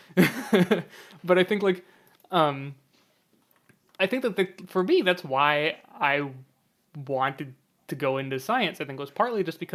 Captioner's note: laughs